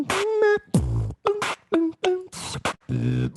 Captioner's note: beatboxing